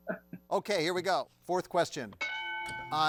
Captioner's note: bell dings